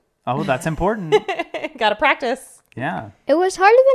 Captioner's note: laughs